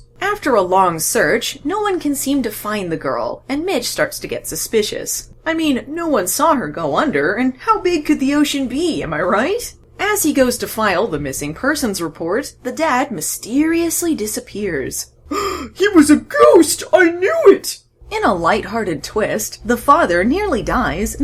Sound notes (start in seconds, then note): 15.2 gasps